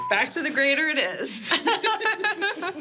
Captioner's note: laughter